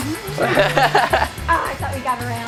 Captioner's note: laughter